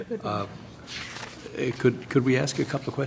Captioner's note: laughter